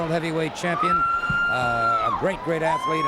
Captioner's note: crowd member screams